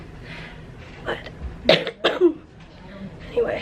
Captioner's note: coughing